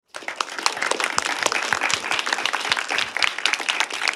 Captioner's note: applause